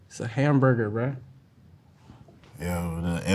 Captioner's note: none